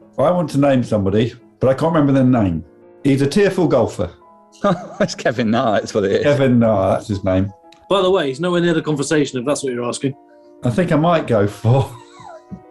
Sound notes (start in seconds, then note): 4.6 laughing; 11.7 laughing